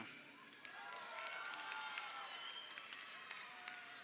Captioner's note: crowd cheering